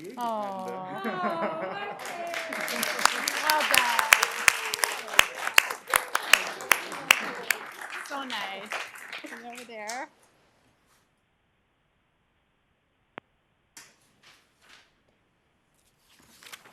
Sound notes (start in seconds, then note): 6.1 cheering and applause